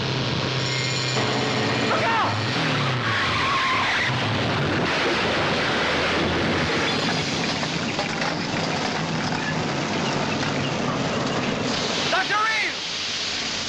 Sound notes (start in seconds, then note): 3.3 skidding; 6.4 crashing